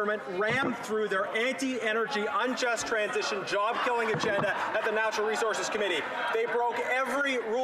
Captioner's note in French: voix de l'interprète